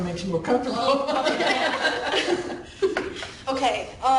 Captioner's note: laughing